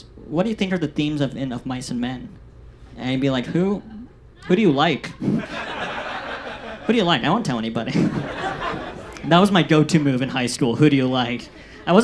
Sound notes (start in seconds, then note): 5.0 audience laughs